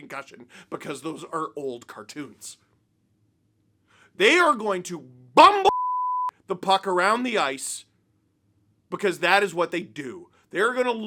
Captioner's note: beep